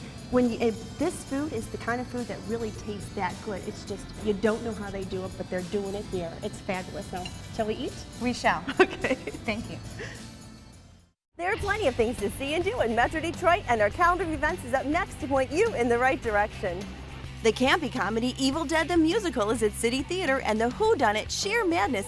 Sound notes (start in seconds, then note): 8.7 laughs